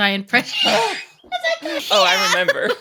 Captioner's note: both laughing